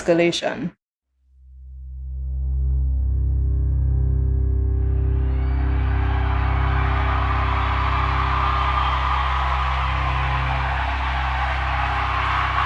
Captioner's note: soundbite of archived recording